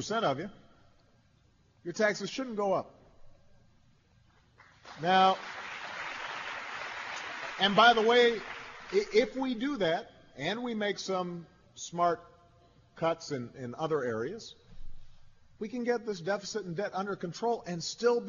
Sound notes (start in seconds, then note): 2.9 applause